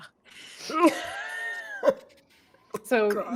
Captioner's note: laughing